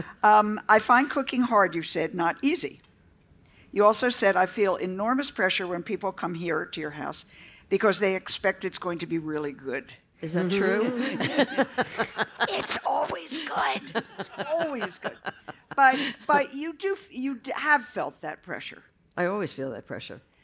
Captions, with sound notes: I find cooking hard, you said, not easy. You also said I feel enormous pressure when people come here to your house. Because they expect it's going to be really good. Isn't that true? [LAUGHTER]. It's always good. But you have felt that pressure. I always feel that pressure.